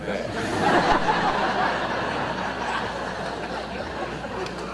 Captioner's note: audience laughter